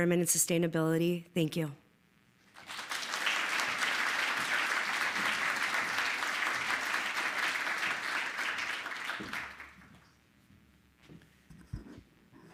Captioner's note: applause